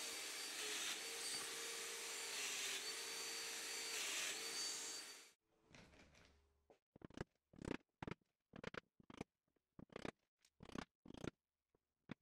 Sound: domino machine being used

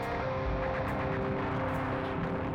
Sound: gunfire

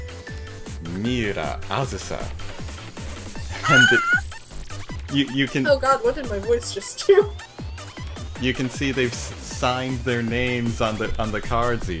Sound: giggle

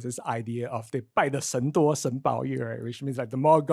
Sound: speaks in foreign language

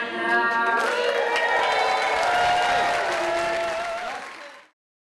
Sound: audience cheering and applauding

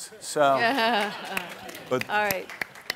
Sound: audience laughing

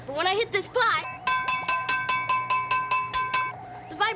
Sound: clanging

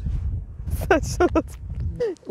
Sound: laughings

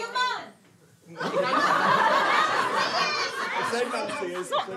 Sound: audience laughter

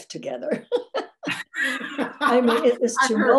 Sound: laughs

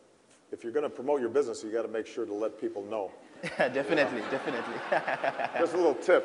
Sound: laughter

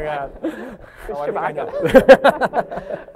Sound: laughter

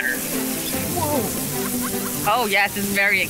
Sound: team laughs

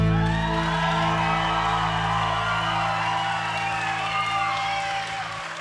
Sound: audience cheering and applauding

